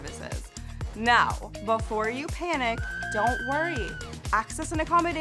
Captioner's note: woman screams